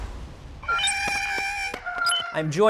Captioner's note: Porg sounds